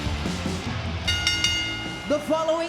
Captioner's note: bell chimes